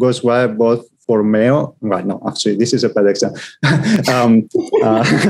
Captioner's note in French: rires